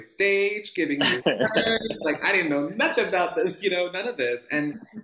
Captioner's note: laughs